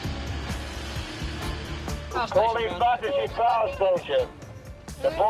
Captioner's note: protestor shouting